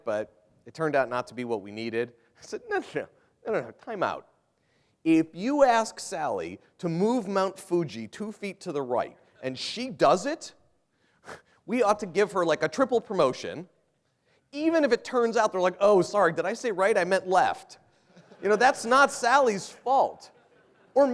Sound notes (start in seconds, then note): 18.0 laughter